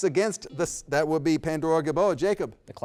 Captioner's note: beep